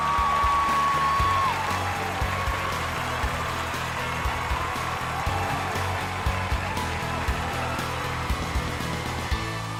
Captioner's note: applause